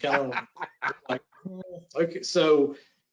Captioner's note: laughs